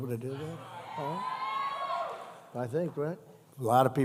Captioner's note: applause